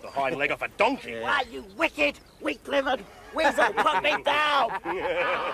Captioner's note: laughter